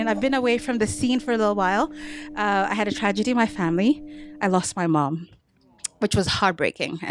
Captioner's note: none